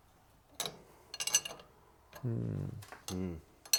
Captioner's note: tools clink